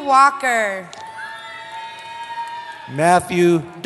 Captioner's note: cheering